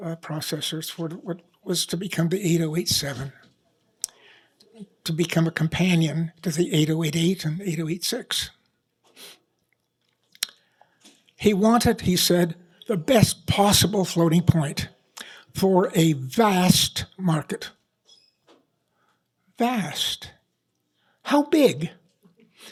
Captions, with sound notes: processors for what was to become the 8087 to become a companion to the 8088 and 8086. [SNIFF] He wanted-- he said the best possible floating point for a vast market. Vast. How big?